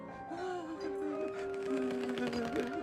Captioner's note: discomfort groaning